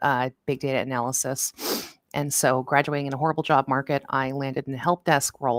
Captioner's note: sniffs